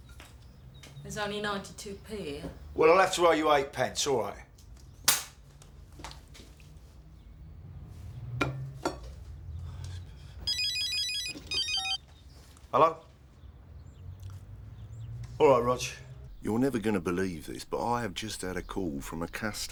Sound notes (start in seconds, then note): 10.4 phone rings